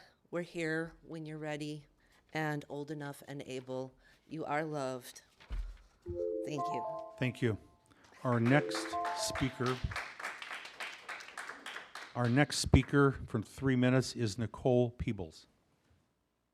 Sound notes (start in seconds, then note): 5.9 applause